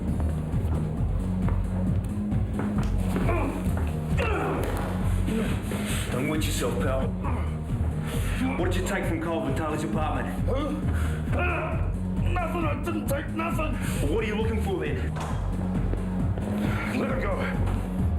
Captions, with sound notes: (man grunts) - Don't wet yourself pal. What'd you take from Kyle Vitale's apartment? (man grunts) - Nothing, I didn't take nothing. - Well, what are you looking for then? - Let him go.